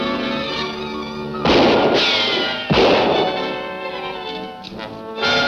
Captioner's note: orchestral music continues; guns shooting